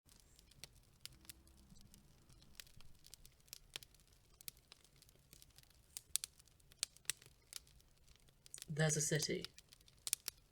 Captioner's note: fire crackling